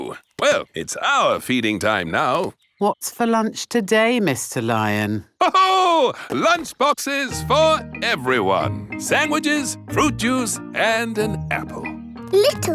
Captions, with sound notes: Me too! Well, it's our feeding time now! What's for lunch today, Mr. Lion? (LAUGHS) Lunch boxes for everyone! Sandwiches, fruit juice, and an apple!